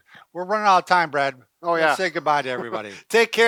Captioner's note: laughing